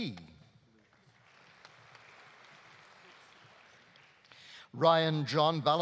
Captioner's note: audience applauding